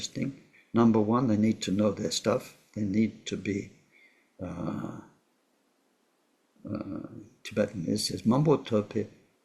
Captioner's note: tibetan